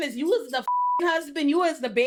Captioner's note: beep